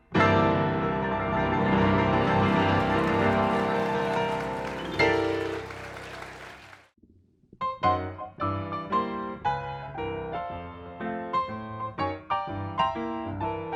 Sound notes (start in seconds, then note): 2.0 audience applauding; 7.7 rollicking music